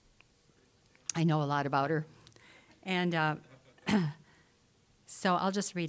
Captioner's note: laughing